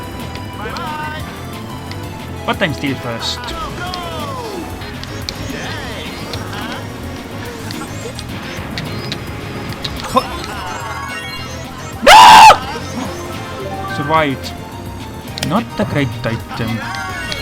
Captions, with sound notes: But I'm still first! Hop! NOOO! [Sigh of relief] Survived! Not a great item...